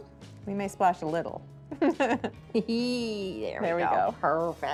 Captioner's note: laughter